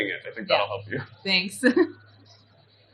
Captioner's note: laughs